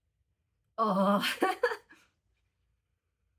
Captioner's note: laughing